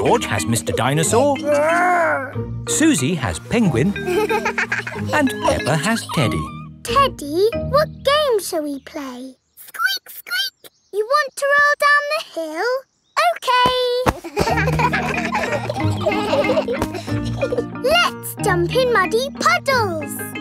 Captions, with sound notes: -George has Mr. Dinosaur... -Grr! -Suzy has Penguin... -(GIGGLES) And Peppa has Teddy. Teddy, what game shall we play? Squeak, squeak. You want to roll down the hill? Okay! (KIDS LAUGHING) Let's jump in muddy puddles!